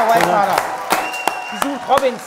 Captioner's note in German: Jubel, Applaus